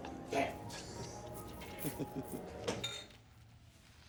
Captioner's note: people laughing